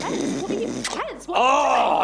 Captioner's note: snorting